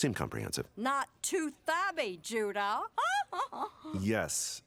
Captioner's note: chuckling